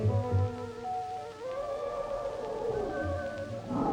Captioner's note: animal sounds